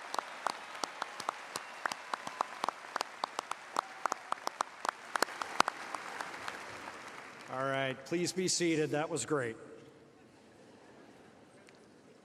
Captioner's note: applause